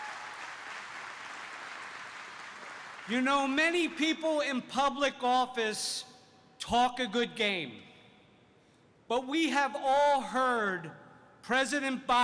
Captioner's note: applause